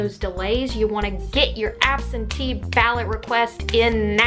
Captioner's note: clap